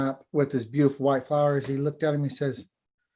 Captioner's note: foreign language